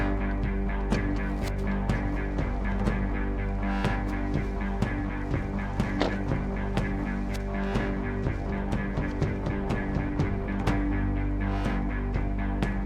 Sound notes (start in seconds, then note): 5.9 door thumping; 6.1 suspenseful music continues